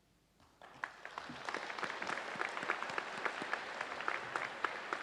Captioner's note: audience applauds